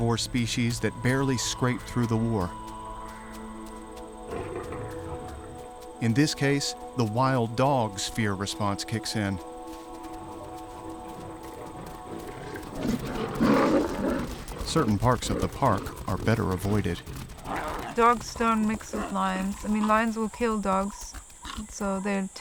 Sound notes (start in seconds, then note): 4.2 lion growling softly; 12.3 lions growling loudly